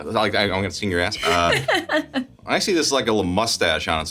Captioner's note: Sarah laughs